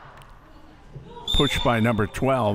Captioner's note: whistle chirping